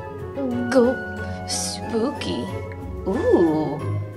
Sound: gulps

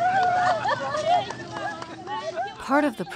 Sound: women laugh; women exclaim in Sudanese language

